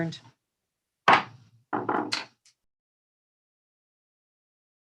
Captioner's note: gavel being struck